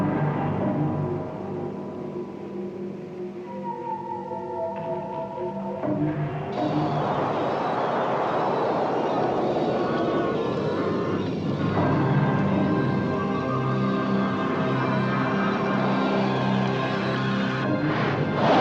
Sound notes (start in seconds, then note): 7.6 whooshing; 12.4 ominous music